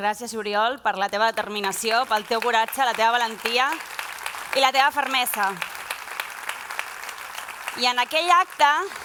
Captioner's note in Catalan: aplaudiments